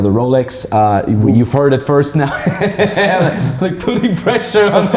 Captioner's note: laughing